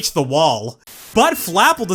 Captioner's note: static